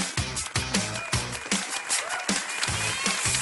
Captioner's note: cheering